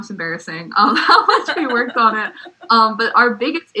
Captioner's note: laugh